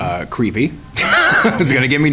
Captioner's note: laughs